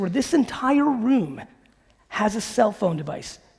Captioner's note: none